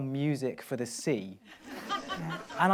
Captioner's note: laughs